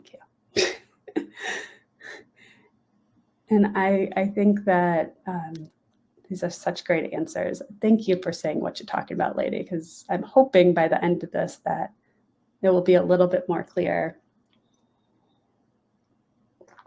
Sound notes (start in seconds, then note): 1.0 laughing